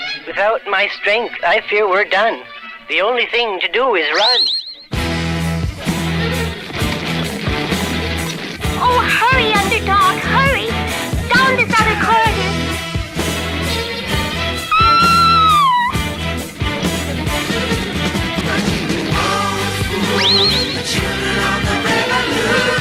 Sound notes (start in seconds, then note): 14.7 Sweet Polly Purebred Screams